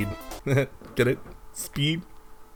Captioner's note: chuckles